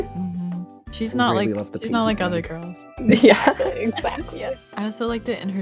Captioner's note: laughter